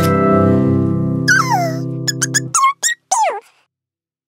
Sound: little Yellow Chickadee chirps

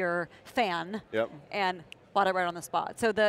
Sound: snaps fingers

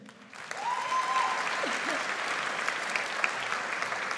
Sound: audience applauds

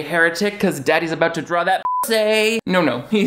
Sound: beep

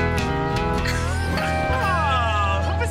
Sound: laughing

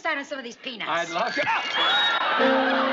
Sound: screams

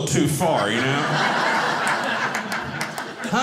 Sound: audience laughing

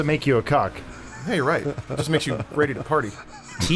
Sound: laughs

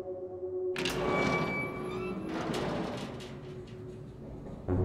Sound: door creaks open

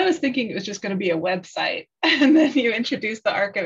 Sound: laughter

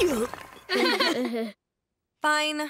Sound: chuckles

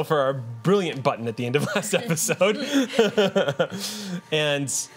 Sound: laughs

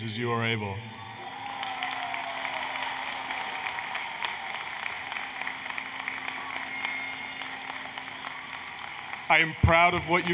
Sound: applause, Cheering

